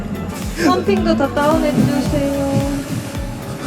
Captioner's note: shivers